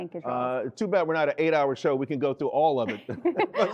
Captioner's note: laughter